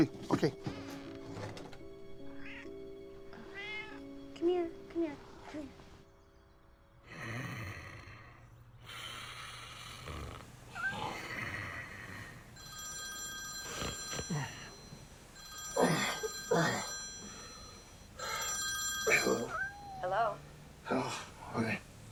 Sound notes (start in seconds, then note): 1.4 door squeaking shut; 3.4 cat meowing; 8.8 Hitch snoring; 8.9 cat purring; 12.5 telephone ringing; 15.6 groaning